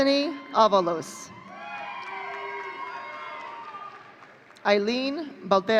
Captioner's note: audience cheering